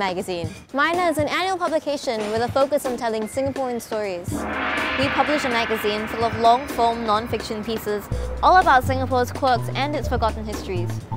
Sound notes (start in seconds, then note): 4.3 chinese Gong sound